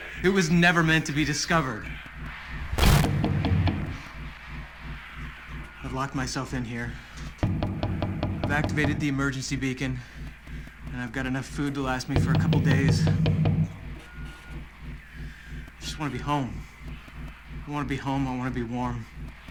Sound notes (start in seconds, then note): 3.0 knocking on door; 7.4 knocking continues; 12.1 knocking continues